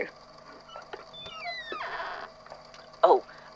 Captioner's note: door creaks